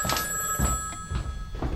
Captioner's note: phone rings